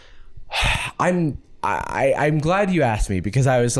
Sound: sighs

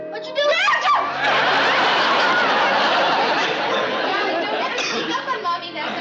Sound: screams in surprise

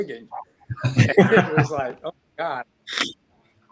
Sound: laughing

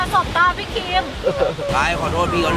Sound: chuckles

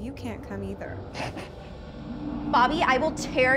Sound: Bobby laughs

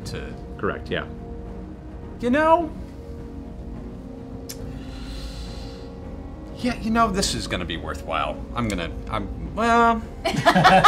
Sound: sighs; laughter

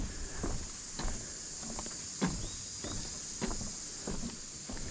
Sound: bugs buzzing

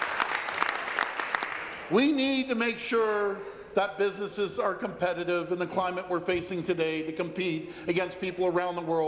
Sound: applause

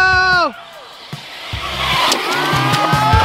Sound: engine revving; cheering; upbeat, lively music

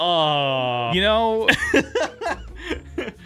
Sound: laughs

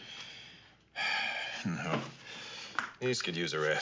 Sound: sighs

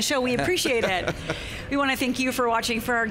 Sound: laughing

